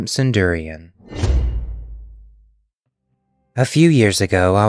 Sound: whoosh

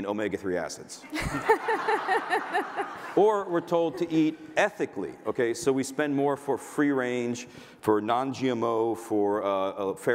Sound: laughter

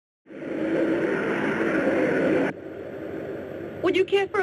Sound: plane roaring

